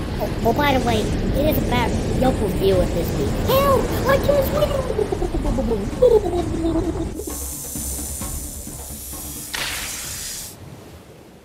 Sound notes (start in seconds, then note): 4.9 gurgling; 7.0 rattling; 9.5 gunshot